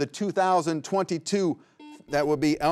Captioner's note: buzzer rings